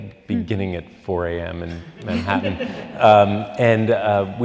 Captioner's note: audience laughing